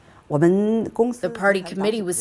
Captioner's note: speaking foreign language